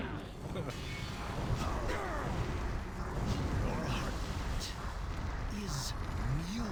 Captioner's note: laughs